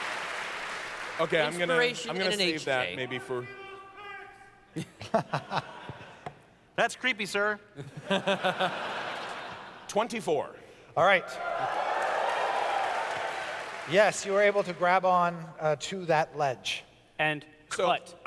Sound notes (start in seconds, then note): 7.8 laughter